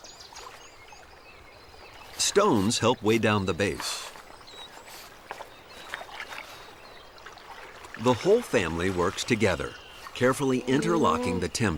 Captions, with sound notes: Stones help weigh down the base. [ Water Splashing ] The whole family works together, carefully interlocking the timber.